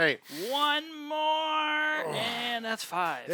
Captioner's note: grunting